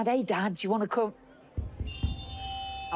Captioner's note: microphone feedback